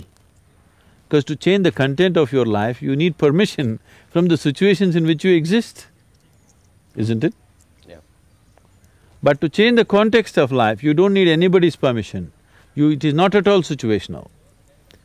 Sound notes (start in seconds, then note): none